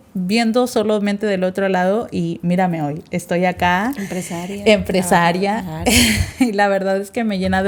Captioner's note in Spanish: carraspeo